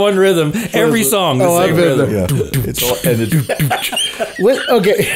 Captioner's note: host beat boxing